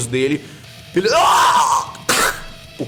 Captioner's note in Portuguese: Grita